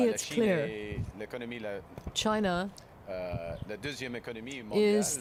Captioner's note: speaking French